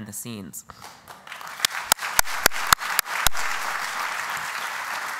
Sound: applause

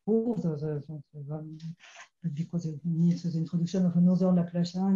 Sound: speaking in foreign language

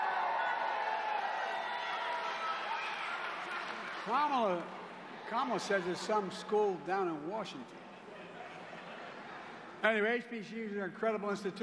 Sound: cheers and applause

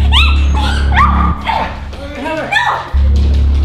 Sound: grunting

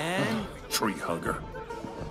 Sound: scoffs

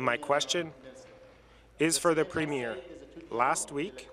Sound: speaking French

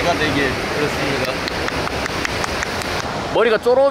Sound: applause of satisfaction

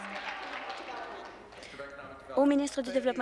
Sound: applause

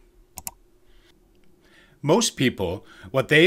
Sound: computer mouse click

